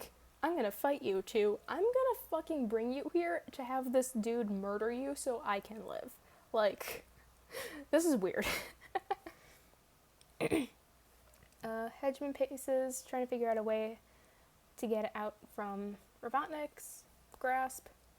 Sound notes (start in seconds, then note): 8.5 laughs